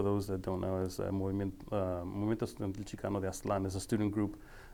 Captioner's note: speaking foreign language